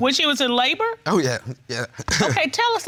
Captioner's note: chuckles